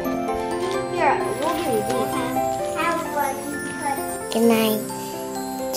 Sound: distant chatting

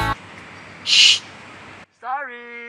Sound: shhhh

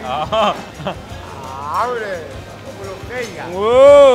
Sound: laughs; speaking in foreign language

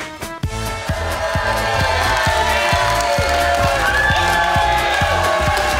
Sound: crowd cheering and clapping

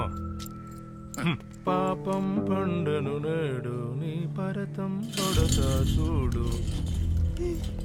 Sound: Kunjoy humming

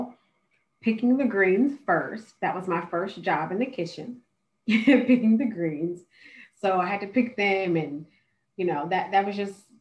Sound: laughter

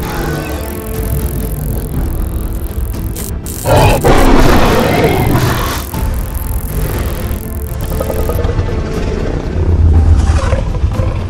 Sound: Indominus Rex growls

